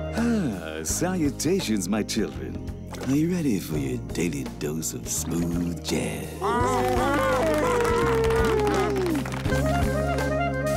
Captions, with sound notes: Salutations, my children. Are you ready for your daily dose of smooth jazz? [moaning, clapping]